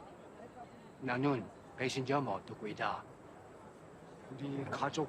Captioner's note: Tae speaking in a foreign language